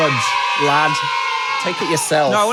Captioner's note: children cheering